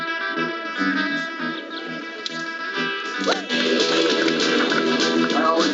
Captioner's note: upbeat music; birds chirping